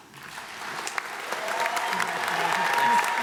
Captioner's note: applause